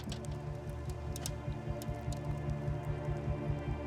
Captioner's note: crackling